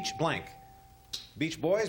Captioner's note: ding